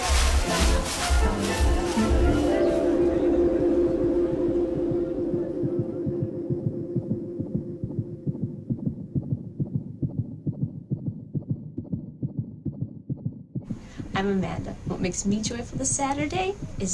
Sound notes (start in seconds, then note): 0.1 overlapping chatter; 5.8 ultrasound pulses